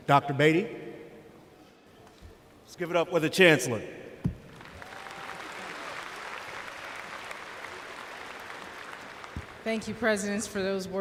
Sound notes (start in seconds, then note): 4.4 applause